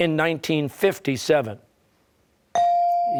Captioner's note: bell ringing